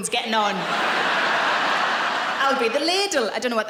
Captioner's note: laughing